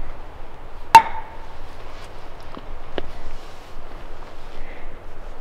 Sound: wood tapping

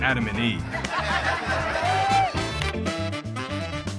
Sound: family laughs; upbeat music

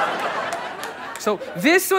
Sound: audience laughter

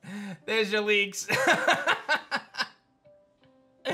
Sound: laughs

